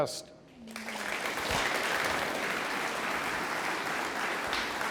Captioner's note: audience applauds